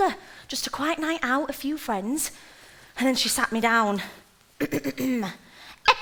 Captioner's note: impersonating Marge